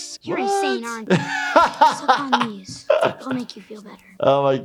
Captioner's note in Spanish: se ríe